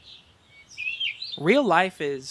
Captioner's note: nature sounds